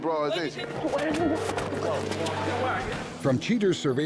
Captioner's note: scuffling